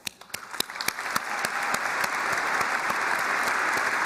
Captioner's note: applause